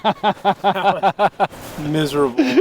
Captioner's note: laughing